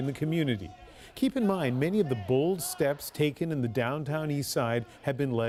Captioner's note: chants